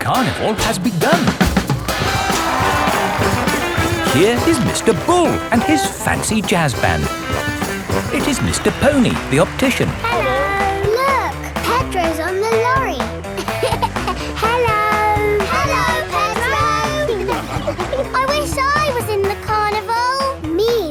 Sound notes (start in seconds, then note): 2.6 jazz music playing; 13.6 laughing